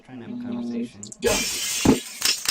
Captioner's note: crash; click click click click